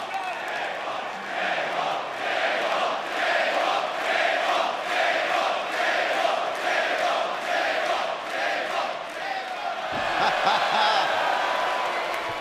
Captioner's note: fans chanting